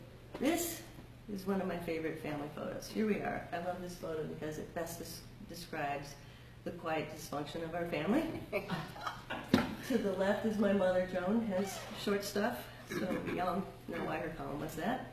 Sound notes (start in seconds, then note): 8.4 laughter